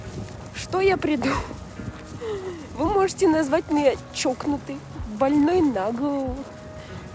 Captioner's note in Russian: смех